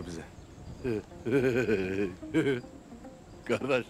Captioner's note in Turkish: Gülme sesi